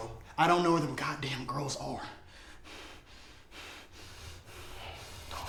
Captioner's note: panting